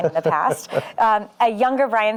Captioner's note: laughs